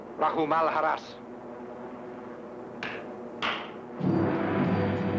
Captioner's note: man speaks foreign language; speaks foreign language; claps; ominous music